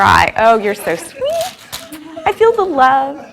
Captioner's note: audience giggles; audience laughs